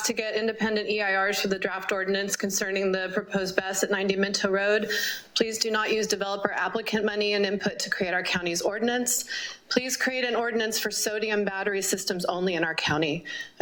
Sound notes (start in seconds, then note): none